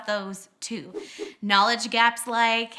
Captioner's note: whooshing